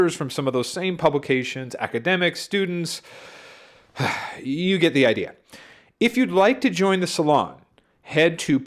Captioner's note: heavy sigh